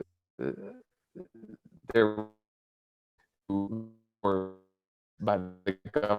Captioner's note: audio distortion